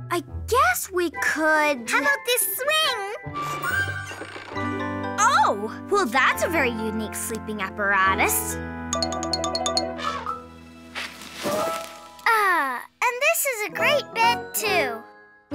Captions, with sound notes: I guess we could. - How about this swing? - Oh, well that's a very unique sleeping apparatus. (Elephant trumpeting) - Ah, and this is a great bed too.